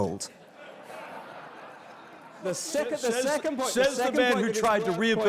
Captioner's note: laugh